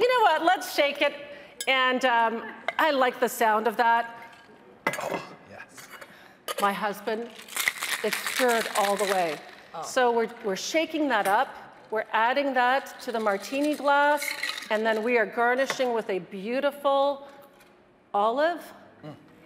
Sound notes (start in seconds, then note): 3.4 metal clanging